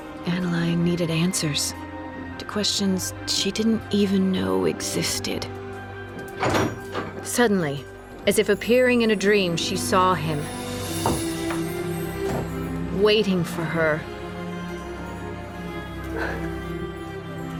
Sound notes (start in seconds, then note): 6.1 door opens; 16.1 annaline exhaling